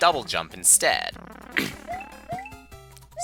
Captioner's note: clears throat